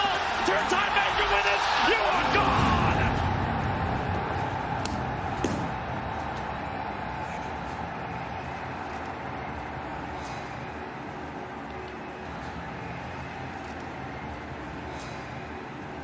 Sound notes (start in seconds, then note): 3.7 crowd cheering; 10.0 sighs